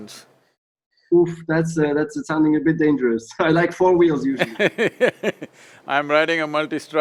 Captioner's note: Sadhguru laughs